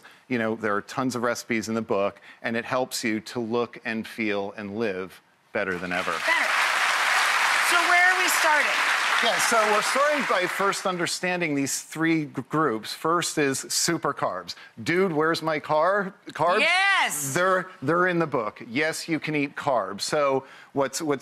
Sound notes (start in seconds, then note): 5.7 crowd applauds